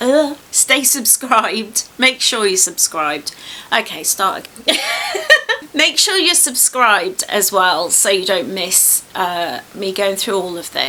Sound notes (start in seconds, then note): 4.6 laughs